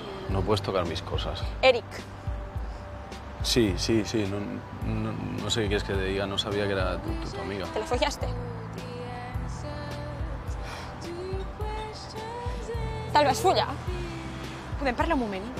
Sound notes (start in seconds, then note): 10.6 sighs